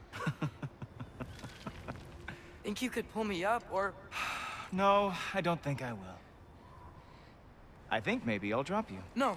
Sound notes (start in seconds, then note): 0.1 laughs; 4.1 sigh